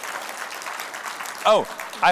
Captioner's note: applause